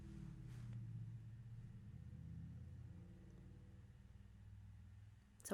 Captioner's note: pause for motorcycle noises outside